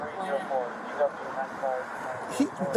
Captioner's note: radio chatter